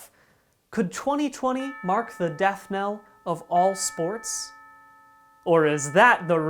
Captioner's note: bell ringing